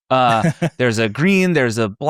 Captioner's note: laughing